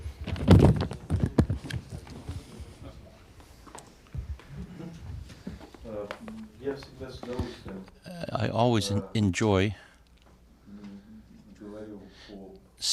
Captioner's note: through translator